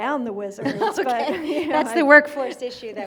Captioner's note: laughs